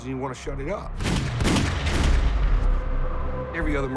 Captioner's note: gunfire